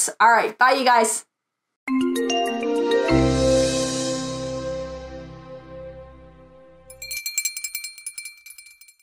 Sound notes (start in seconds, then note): 1.9 light music; 6.8 bell ringing